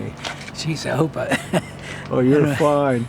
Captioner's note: laughs